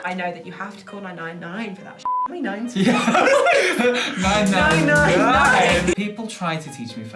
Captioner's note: laughter